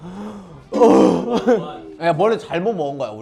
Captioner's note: shuddering